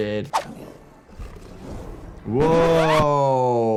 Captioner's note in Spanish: gruñido del tambaleante